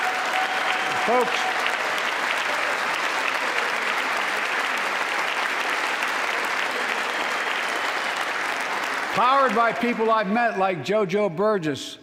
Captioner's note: applause